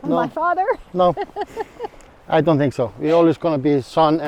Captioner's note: laughs